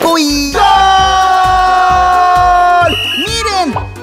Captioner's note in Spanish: Sonido de silbato